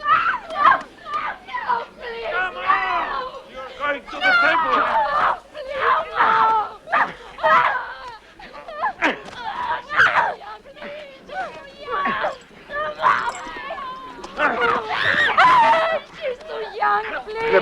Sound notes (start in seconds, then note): 7.6 men grunting; 8.4 women shouting; 14.3 screams